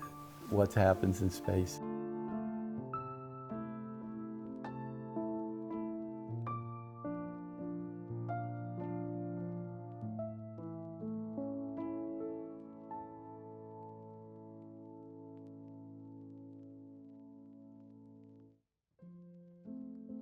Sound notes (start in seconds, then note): none